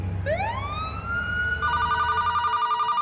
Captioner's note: ambulance siren ringing; phone ringing